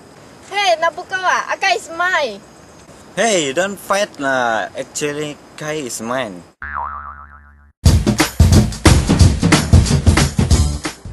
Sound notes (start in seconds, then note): 6.6 spring boing sound